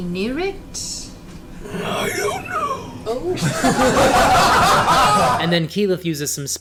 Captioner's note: all laugh